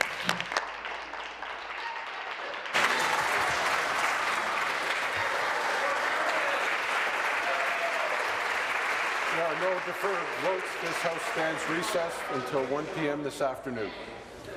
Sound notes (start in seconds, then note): 3.6 applause